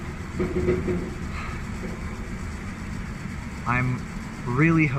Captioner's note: sighs